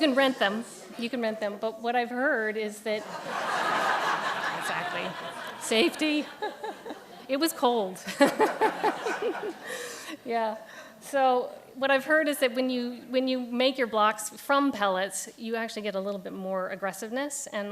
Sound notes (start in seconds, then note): 3.0 audience laughs